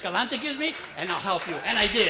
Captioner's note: applause